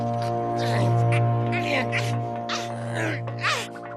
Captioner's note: effort grunts